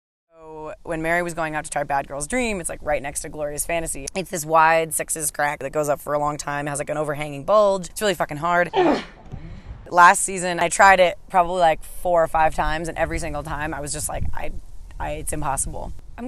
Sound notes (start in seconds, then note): 8.7 grunts